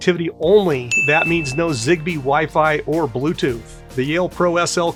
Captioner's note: bell ringing